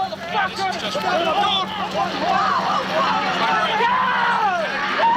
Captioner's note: mixed voices yelling